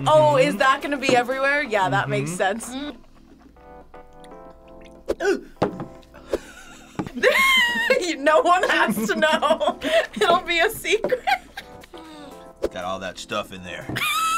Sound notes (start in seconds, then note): 6.2 laughs; 11.0 laughs; 14.2 React laughs